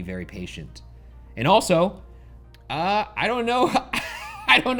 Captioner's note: laughs